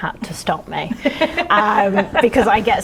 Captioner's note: laughing